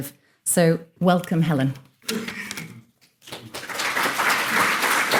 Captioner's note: audience applauding